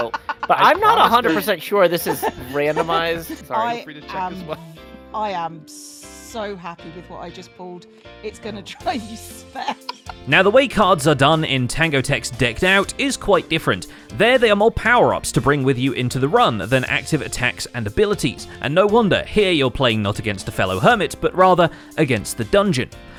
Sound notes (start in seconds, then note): 9.2 cackles